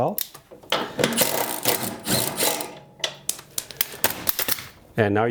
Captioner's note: impact wrench whirring